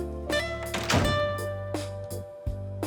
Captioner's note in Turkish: Kapı kapanma sesi